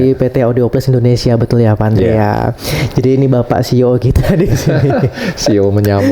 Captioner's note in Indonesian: tertawa